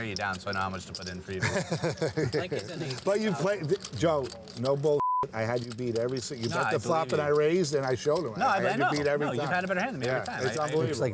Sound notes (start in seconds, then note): 1.4 laughs; 5.0 beep